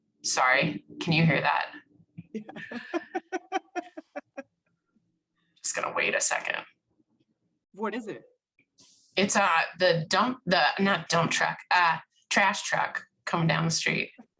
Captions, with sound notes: Sorry, can you hear that? - Yeah (laughs) - I'm just gonna wait a second. - What is it? - It's the dump... not dump truck, trash truck coming down the street.